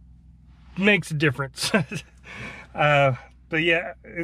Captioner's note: chuckling